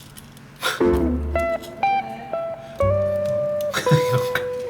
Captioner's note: chuckle